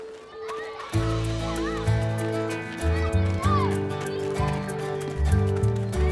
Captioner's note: campers excitedly shouting; upbeat music